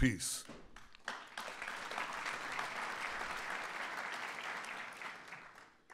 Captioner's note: applause